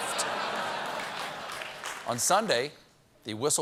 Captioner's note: laughter; applause